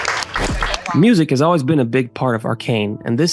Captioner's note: voiceover